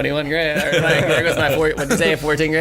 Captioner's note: all laughing